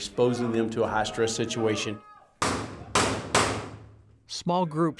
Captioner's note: gun shots fired